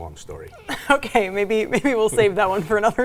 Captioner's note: laughs